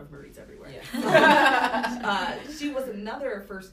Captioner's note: laughter